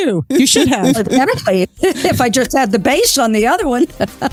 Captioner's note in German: Lachend; Lacht